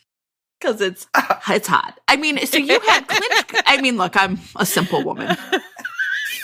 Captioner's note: laughter